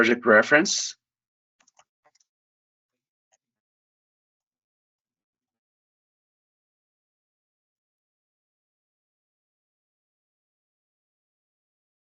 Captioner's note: keyboard clicking